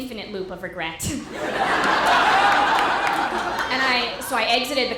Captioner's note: audience laughter